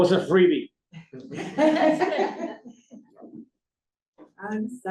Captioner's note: laughter